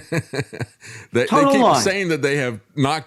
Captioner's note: laughs